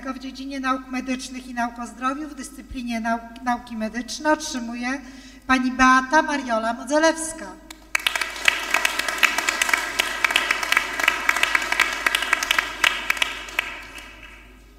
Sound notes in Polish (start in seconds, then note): 7.7 oklaski